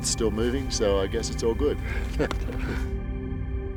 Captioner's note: chuckles; serene music